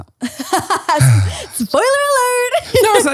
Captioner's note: sighing; laughing